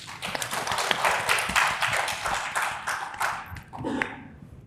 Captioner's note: audience applauding